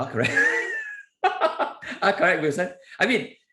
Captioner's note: laughs